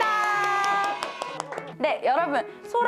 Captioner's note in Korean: 박수